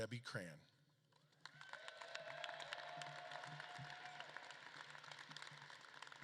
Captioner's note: audience claps and cheers